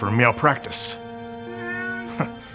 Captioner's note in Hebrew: יללה